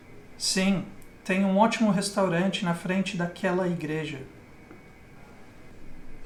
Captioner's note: speaker 2 speaking in foreign language